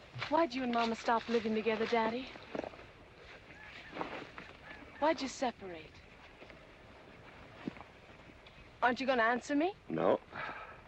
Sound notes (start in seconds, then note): none